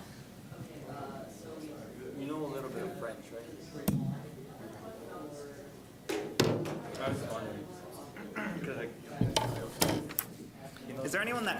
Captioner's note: general chatter